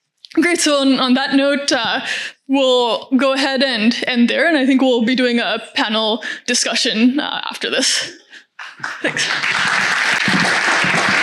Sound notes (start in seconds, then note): 8.6 applause; 8.6 audience clapping